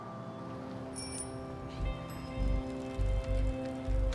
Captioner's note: bell ringing